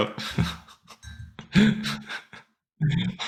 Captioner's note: laughing